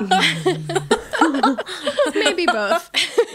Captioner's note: both laughing